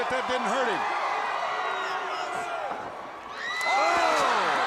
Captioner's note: crowd cheering